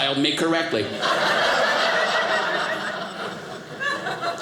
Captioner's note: audience laughing